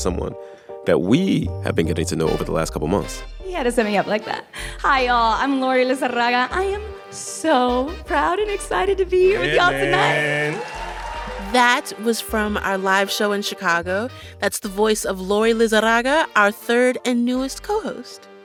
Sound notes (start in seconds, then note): 3.3 soundbite of archived npr broadcast; 9.4 cheering